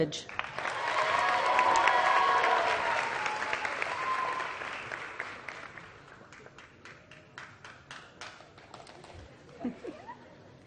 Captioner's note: applause